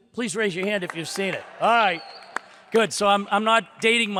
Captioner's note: audience cheers